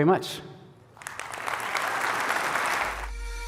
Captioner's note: applause